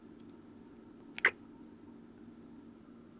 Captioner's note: kiss